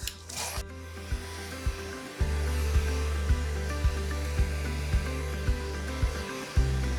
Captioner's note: blower hissing; bright music